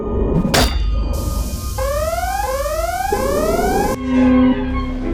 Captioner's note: ax bangs; alarm wailing